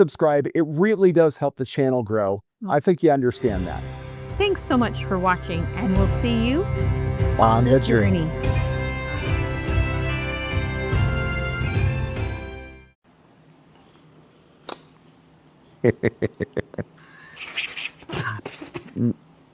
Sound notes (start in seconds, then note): 14.6 smooch; 15.8 laughing